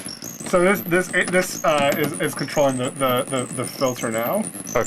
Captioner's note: stammering